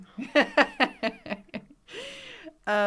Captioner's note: laughs